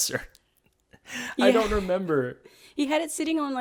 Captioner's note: laughs